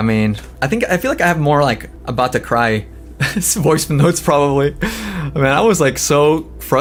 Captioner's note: laughs